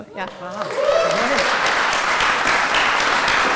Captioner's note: applause